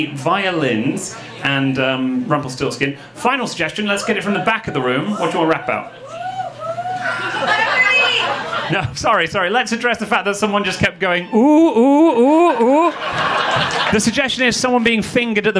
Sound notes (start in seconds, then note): 6.0 audience member whooping; 12.1 audience laughing